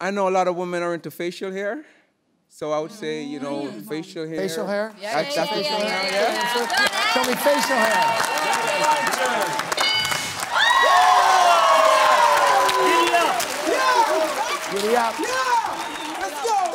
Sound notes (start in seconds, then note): 9.8 bell dings; 10.8 cheering/applause